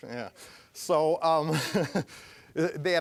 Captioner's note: laughing